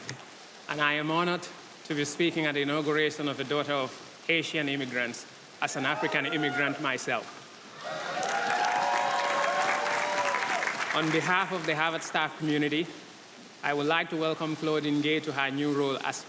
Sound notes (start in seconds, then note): 7.7 audience applauding and cheering